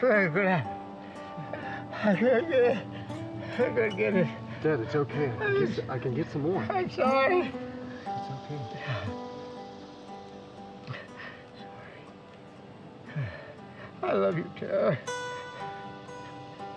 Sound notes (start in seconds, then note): 7.2 sobs